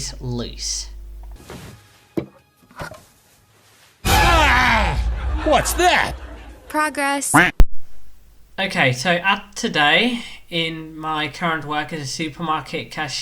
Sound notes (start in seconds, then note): 1.8 norm screaming out of fear?; 7.7 quack